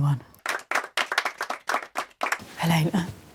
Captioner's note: applause